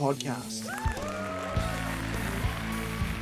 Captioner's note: crowd cheering